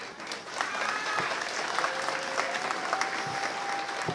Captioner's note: applause